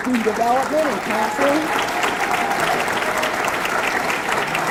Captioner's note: audience clapping